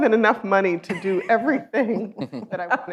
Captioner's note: laughs